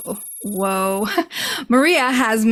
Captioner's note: laughs